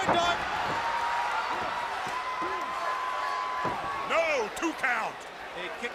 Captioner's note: crowd chatter